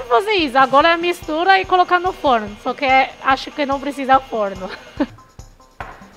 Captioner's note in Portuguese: risos